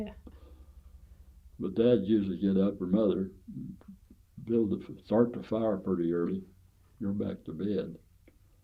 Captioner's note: laughs